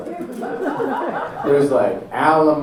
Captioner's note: audience laughing